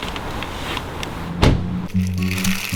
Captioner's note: close car door